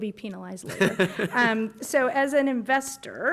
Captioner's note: laughter